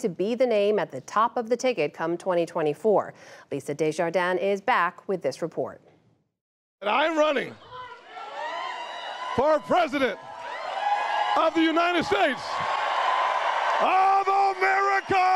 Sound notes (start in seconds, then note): 12.3 cheering and applause